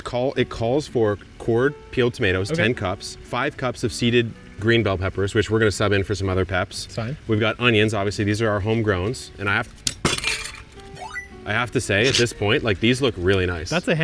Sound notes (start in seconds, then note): 10.2 arcade music; 11.9 onion thuds